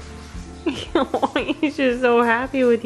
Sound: laughing

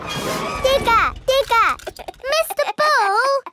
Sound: chuckles

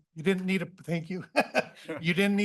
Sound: laughs

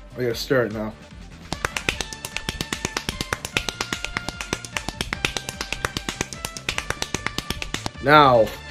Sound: jacking noises

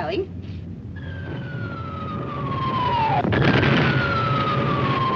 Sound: bombs whistling

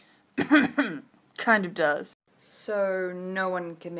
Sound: cough cough

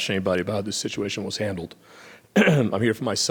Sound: clears throat

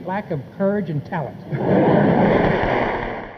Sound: audience claps and cheers

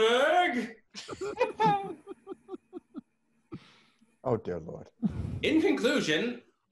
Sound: laughter

